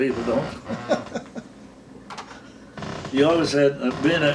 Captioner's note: laughing